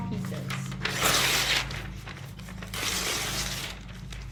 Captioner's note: papers tearing